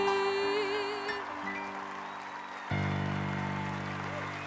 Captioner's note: crowd applauding